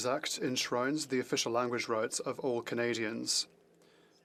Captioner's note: speaking French